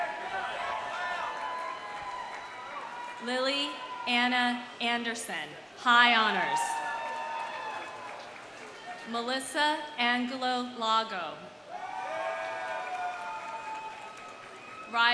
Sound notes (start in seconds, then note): 0.0 audience applauding; 0.0 audience cheering; 6.6 audience applauding; 7.9 audience cheering; 11.6 audience cheering; 11.7 audience applauding